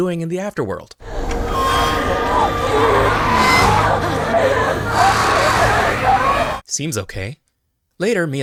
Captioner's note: screaming